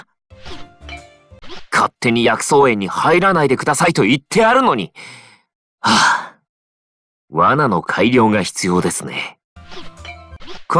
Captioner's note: sigh